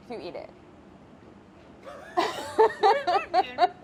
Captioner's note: laughing